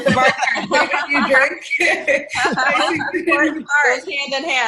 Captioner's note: women laughing; laughing